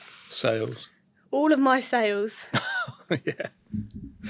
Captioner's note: chuckles